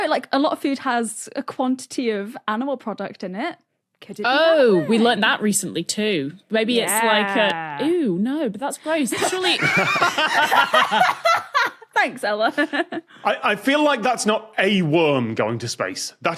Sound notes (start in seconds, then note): 9.1 others laugh uproariously